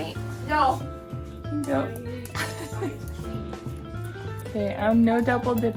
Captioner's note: laughing as dog gets a bite of ice cream